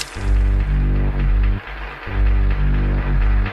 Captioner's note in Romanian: Aplauze